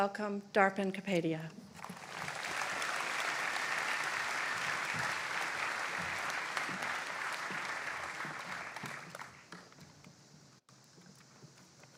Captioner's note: applause